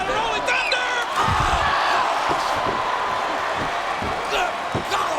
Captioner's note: crowd groaning